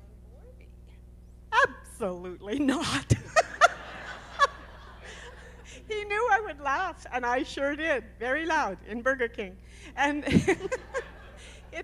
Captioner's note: laughter